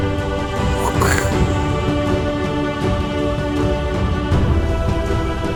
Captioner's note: punching sound effect